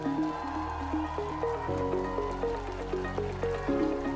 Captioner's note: applause